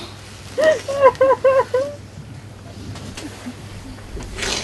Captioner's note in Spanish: sollozos